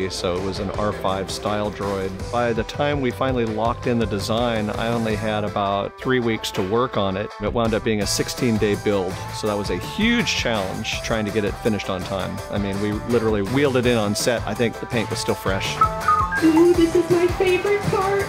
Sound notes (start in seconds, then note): 15.7 droid beeping